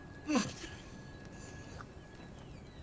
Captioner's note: grunting